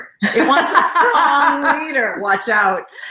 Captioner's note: laughing